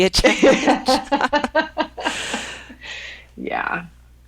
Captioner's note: women laughing